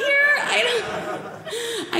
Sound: audience laughing

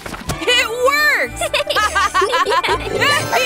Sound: laughs

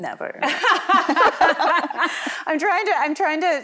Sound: all laughing

